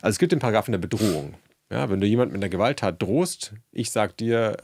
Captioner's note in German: schnauben